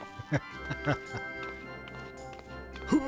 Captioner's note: laughter